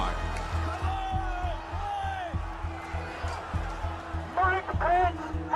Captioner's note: shouting, air horn blaring